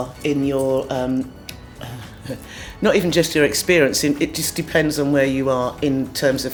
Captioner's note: chuckles